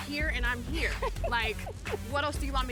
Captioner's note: laughs